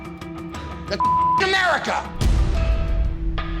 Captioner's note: beep; dramatic music